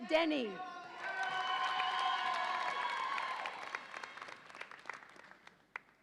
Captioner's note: audience applauds and cheers